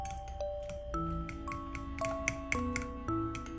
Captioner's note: whisking sound